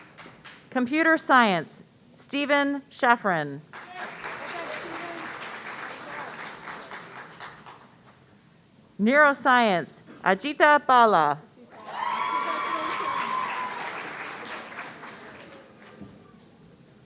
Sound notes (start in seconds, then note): 3.7 audience applauding; 11.7 audience cheering